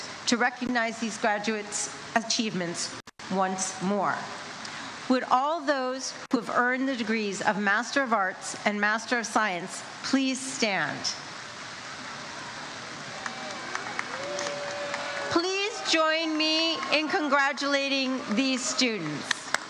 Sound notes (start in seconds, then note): 12.8 crowd cheers and applauds